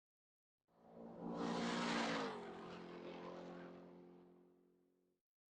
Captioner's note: car enging racing